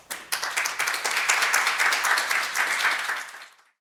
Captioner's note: audience applauding